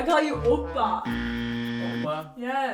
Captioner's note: buzzer